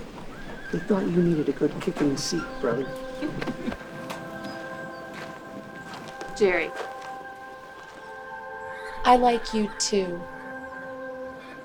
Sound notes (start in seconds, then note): 3.0 soft music; 3.1 Bonnie chuckles